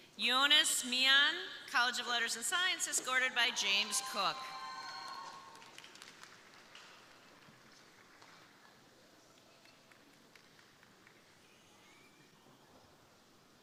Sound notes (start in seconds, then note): 3.6 crowd cheering; 3.8 crowd applauding